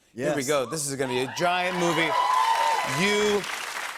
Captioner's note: cheers and applause